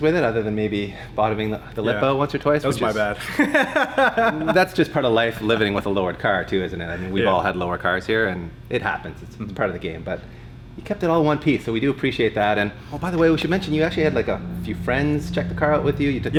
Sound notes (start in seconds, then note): 3.0 laughter